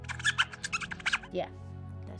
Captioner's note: squeaking